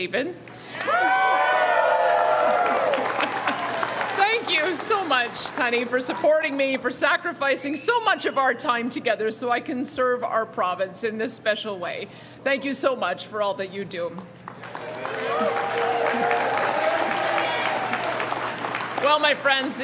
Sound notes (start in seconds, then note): 5.6 cheering and Applause